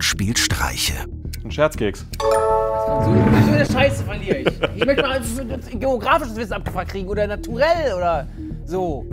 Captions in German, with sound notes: Ein Scherzkeks. Bei so einer Scheiße verliere ich. (Lachen) Ich möchte mal geografisches Wissen abgefragt kriegen. Oder naturell oder so.